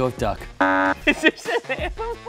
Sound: buzzer

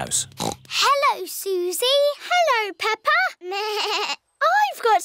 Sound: snorts; bleats

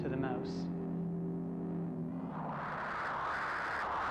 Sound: whooshing

